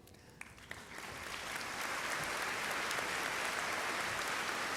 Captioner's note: applause